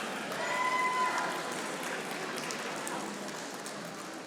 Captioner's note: audience applauding